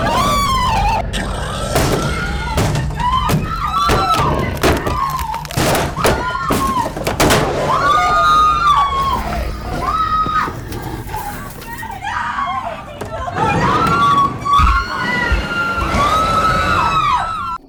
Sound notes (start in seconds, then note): 0.0 Brad growling; 1.3 door crashing; 5.1 door crashing; 5.1 woman screaming; 13.4 Brad growling; 13.4 woman screaming